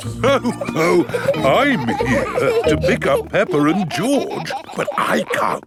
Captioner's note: laughs